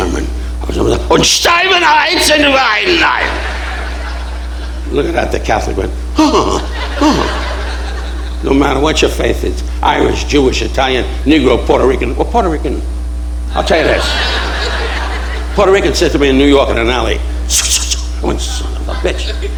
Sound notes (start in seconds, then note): 0.3 Don speaking foreign language; 17.1 swooshing